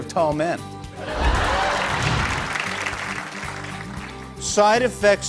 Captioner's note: laughter